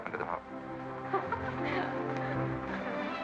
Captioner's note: women giggling